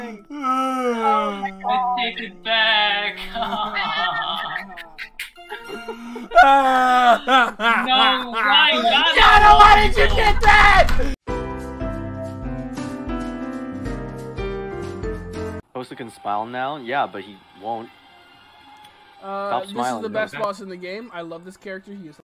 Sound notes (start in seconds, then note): 0.0 still sobbing; 5.5 sobs louder; 9.3 slamming desk